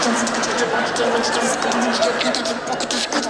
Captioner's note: laughter